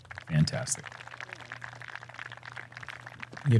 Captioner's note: applause